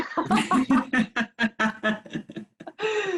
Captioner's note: laughter